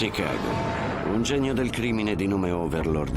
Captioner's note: explosion booming